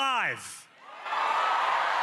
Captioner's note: cheering